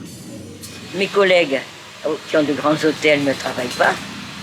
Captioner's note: French spoken audio